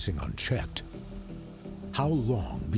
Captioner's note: steam hissing